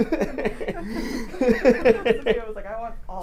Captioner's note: laughter